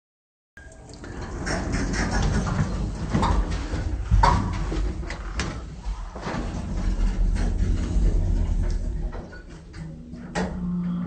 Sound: sound of elevator

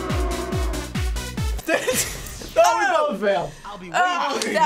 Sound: techno music; laughter

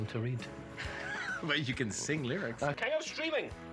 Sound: laughs

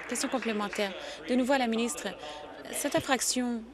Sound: applause

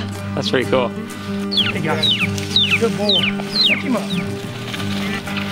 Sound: bird whistling

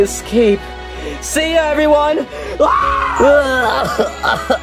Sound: Luigi sobbing; yelling

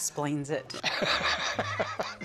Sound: laughs

